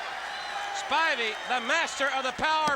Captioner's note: crowd cheering